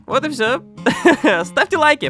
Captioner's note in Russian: Кхе-Кхе